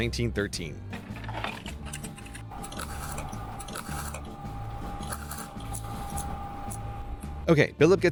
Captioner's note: microfilm fed to microfilm reader / mouse clicking